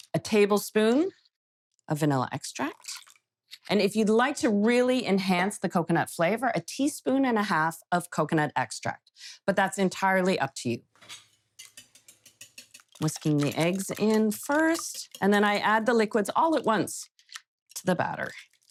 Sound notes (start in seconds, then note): 11.6 whisk tapping